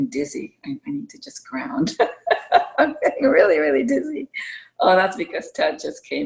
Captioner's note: laughter